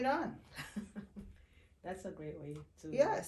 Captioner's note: chuckling